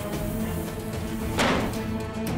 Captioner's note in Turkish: kapi kapatma sesi̇